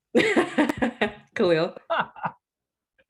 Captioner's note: laughs